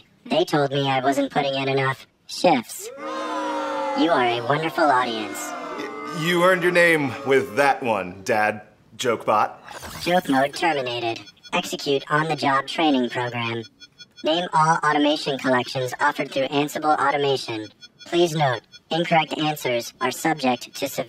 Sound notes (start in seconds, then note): 2.8 crowd booing